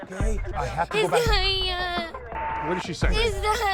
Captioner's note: speaking spanish